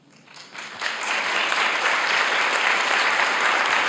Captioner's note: audience applauds